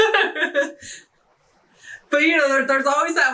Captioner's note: laughing